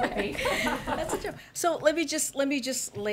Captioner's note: laughs